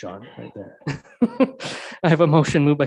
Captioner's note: laughs